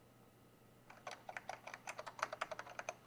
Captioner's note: keyboard clacking